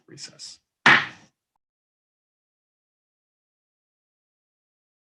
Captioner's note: pounding gavel